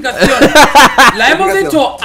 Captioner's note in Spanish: risa de :v